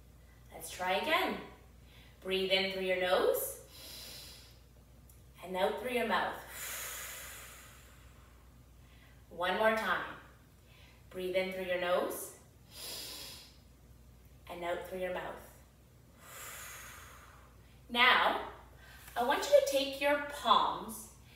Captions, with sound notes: Let's try again, breathe in through your nose. (inhales deeply) and out through your mouth. (exhales deeply) One more time. Breathe in through your nose. (inhales deeply) And out through your mouth. (exhales deeply) Now I want you to take your palms